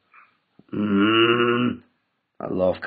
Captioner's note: grunts